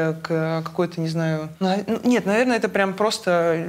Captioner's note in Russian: none